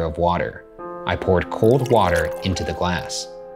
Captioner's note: water pouring